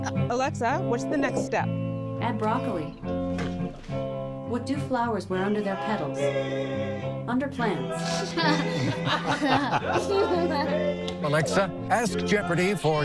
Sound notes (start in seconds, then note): 9.8 girl laughs